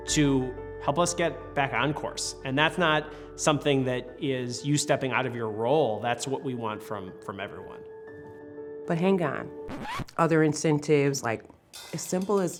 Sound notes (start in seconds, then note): 9.7 record scratches